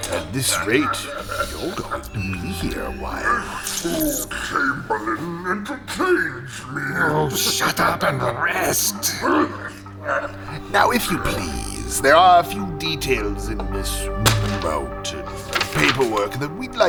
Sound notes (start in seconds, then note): 2.9 laughing and coughing; 8.8 Cydar coughs wetly